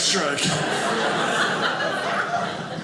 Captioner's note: audience laughing